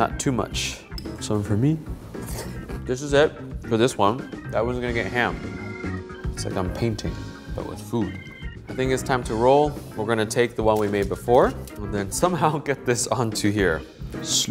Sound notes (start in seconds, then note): 2.1 slurps